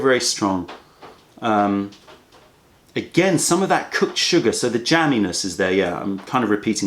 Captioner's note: sips tea